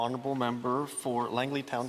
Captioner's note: speaking Indigenous Language